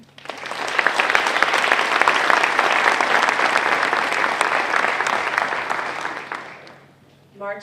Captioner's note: applause